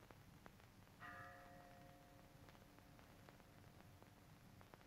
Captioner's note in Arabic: رنين الأجراس